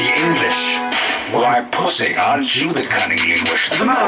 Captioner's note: whack!